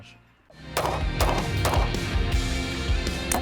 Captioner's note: gun bangs